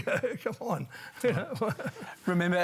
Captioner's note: laughs